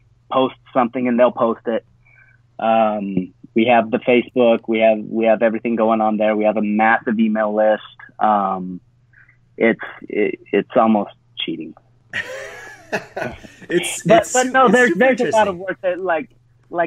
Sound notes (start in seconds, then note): 12.1 laughs